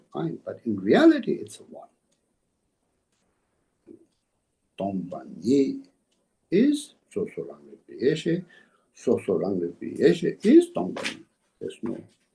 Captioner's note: tibetan